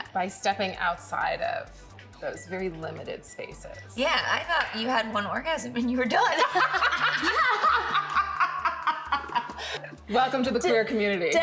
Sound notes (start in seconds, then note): 6.2 laughing